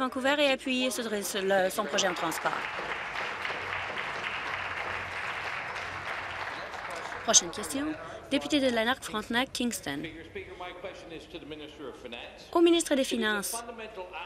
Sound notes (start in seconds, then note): 4.8 voice trails; 8.5 applause